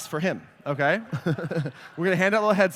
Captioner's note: laughter